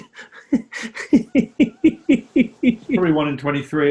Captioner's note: giggling